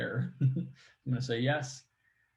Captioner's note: laughs